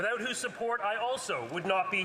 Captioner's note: some Applause